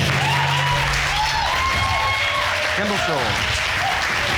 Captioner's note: audience cheers